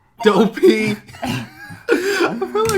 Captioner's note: both laugh